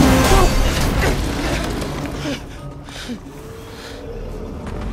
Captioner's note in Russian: тяжелое дыхание